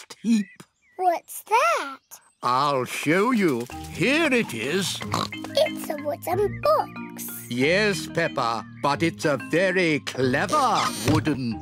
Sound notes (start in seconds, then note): 4.4 oinks